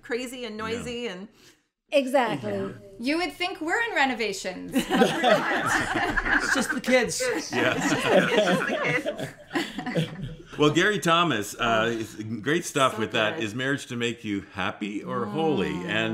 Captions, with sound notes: Crazy and noisy. - Exactly. - You would think we're in renovations. [laughter] But we're not. - Just the kids. [laughter] - Well Gary Thomas, great stuff with that. Is marriage to make you happy or holy?